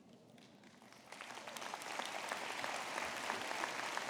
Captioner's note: applause